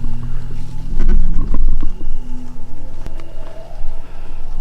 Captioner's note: microphone rustling